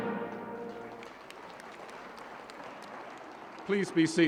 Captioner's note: applause